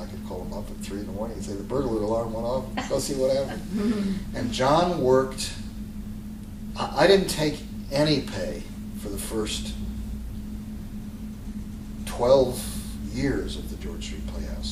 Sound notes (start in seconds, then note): 4.9 laughter